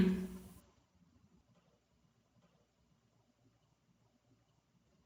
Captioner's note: dead silence. only the barely audible room tone